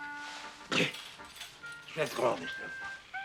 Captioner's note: scoffs, mumbles